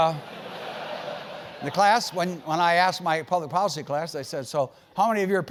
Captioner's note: laugh